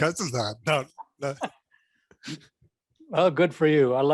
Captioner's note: chuckles; both chuckling